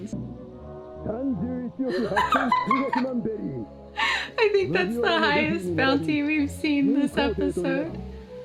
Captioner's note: laughs